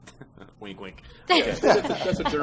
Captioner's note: laughter